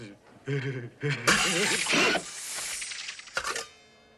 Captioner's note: whirr, buzz, whirr, click